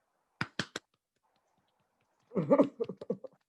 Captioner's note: claps